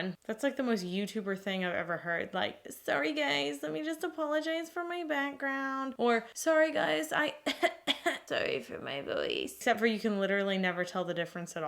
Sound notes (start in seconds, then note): 7.4 coughing